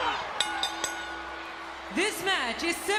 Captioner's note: bell dinging